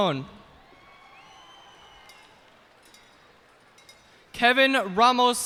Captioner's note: cheers and applause